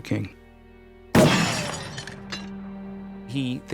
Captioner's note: gunshot